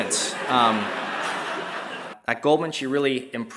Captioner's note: laugh